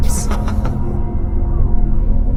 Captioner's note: Zepethar laughs